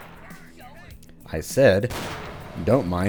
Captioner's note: another gunshot, hissing/flaming noise